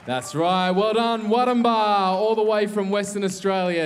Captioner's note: cheering and applause